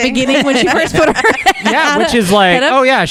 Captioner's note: laughter